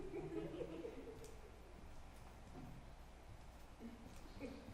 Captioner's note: audience chuckles